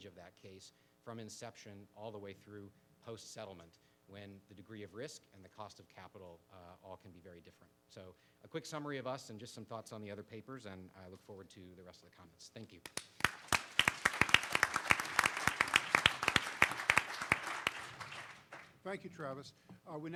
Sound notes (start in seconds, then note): 12.9 participants applaud